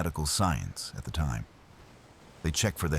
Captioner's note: wind Blowing